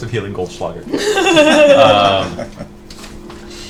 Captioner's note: laughs